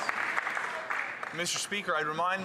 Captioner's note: some Applause